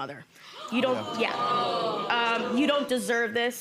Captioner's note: audience gasps; audience groans